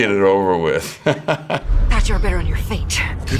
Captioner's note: Jeffrey chuckles